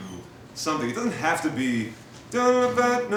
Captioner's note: hums melody